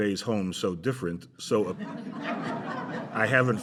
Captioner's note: laughter